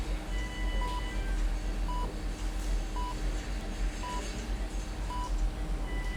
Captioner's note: heart monitor beeping consistently